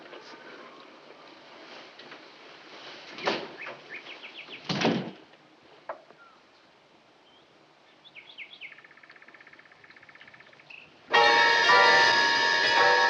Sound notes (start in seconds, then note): 2.9 door closes